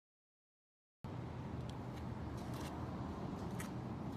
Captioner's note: traffic rumbling